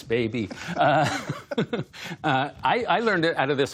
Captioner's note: laughter